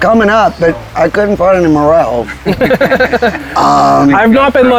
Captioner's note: both laughing